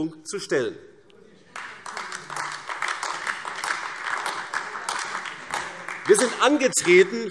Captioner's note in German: Beifall AfD